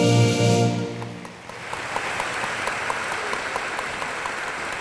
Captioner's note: room applauds